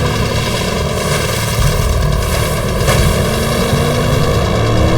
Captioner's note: motor whining